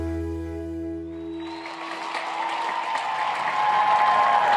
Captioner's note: applauding